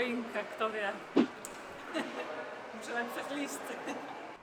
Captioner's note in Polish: śmiech